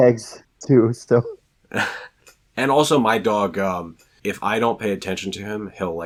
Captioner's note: chuckles